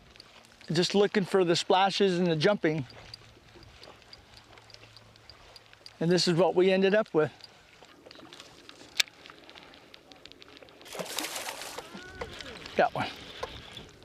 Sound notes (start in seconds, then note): 10.8 splashing